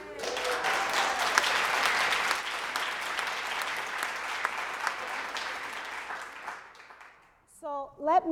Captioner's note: applause